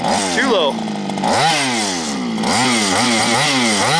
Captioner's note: engine revving